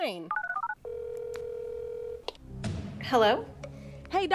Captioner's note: phone line ringing out